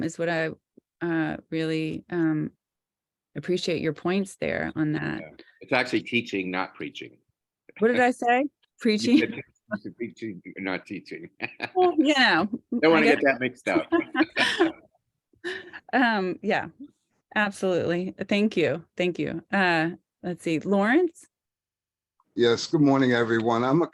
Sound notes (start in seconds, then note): 9.1 laughing; 11.2 laughing; 12.4 laughs